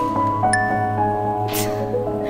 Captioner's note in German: Helles Klingeln